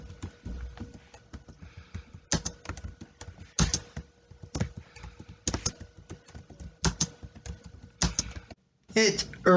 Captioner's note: tapping of the keyboard